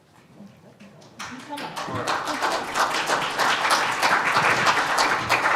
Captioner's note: audience applauds